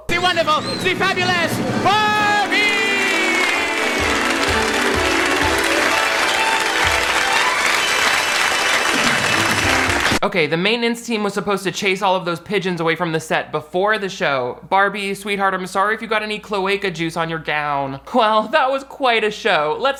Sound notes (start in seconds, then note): 3.4 applause; 3.4 mellow orchestral music